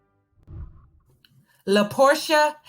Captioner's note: whooshing